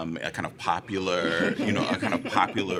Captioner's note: laughter